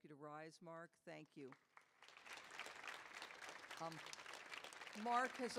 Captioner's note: audience applauding